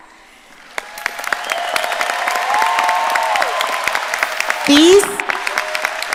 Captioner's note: audience applauding and cheering